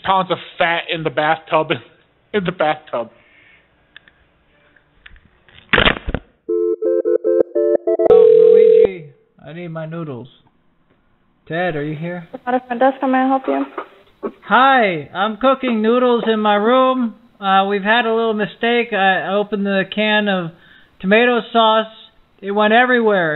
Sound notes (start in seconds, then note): 3.5 phone rings